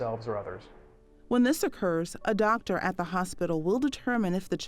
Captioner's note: voiceover